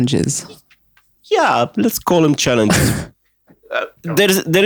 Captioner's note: laughs